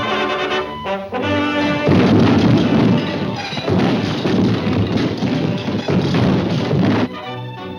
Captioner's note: triumphant music; debris clattering